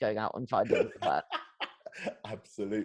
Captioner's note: laughs